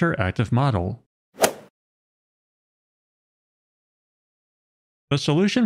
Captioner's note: golf ball hit sound effect